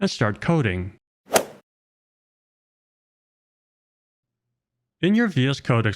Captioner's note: golf swing sound effect